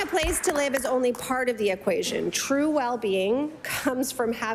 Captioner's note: applause